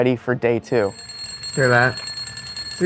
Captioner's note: alarm clock ringing